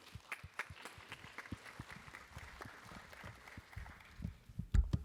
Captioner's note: applause